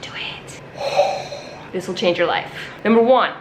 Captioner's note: exhales loudly